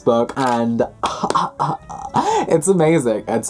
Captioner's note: dramatic breath